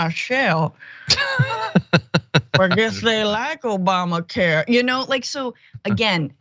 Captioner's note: laugh